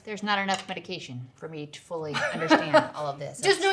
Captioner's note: laughs